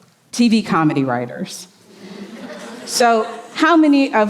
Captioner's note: audience chuckling